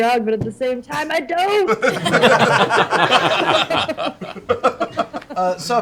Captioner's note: laughter